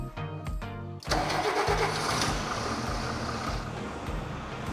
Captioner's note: background music plays; engine ignition